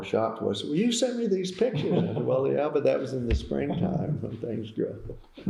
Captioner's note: laughter